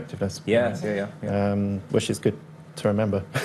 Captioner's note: laughs